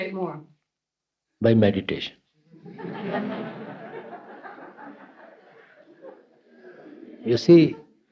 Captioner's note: happy laughter from everyone